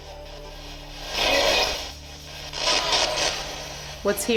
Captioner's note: spirit box voice